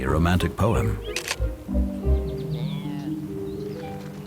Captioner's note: camera clicks